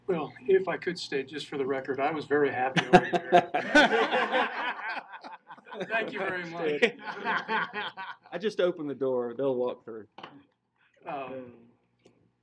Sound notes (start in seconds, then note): 2.8 laughing